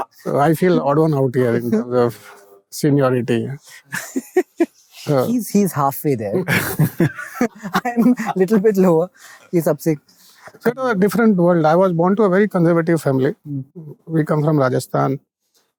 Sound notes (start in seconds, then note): 6.3 chuckling